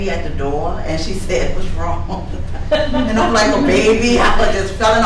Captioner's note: laughs